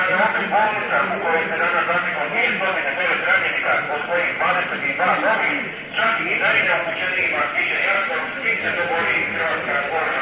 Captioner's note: in Croatian